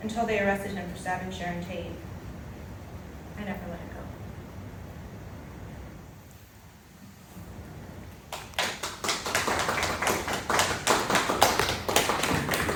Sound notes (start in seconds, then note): 8.2 light applause